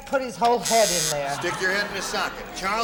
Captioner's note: buzzer